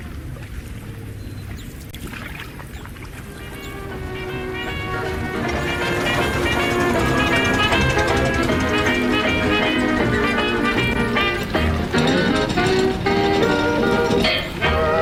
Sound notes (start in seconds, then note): 0.1 waves; 1.1 seagulls; 2.1 waves lapping against the dock; 4.8 wind